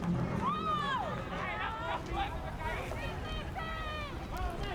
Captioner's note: fans yelling